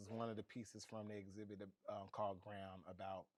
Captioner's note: none